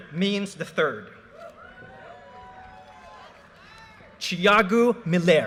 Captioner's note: audience cheers and applause